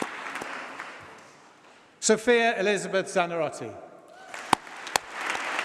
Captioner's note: applause